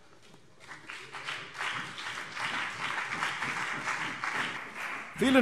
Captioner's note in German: Beifall CDU und BÜNDNIS 90/DIE GRÜNEN